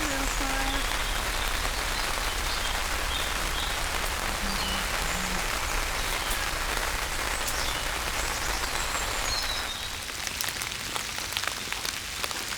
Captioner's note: rain